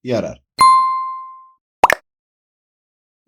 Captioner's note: notification Sound